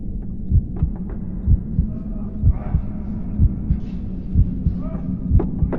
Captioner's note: heartbeat thrums; shouting echoes faintly